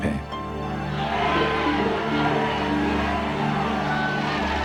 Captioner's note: shouting